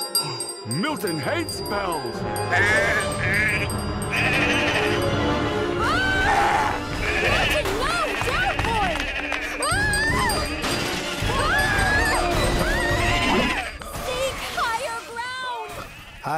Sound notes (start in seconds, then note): 0.1 gasps; 2.4 bleating angrily; 6.0 snarling